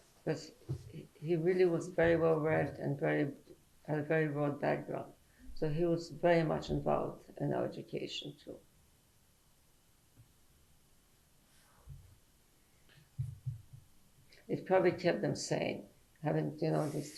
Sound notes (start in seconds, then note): 8.8 pauses for 6 seconds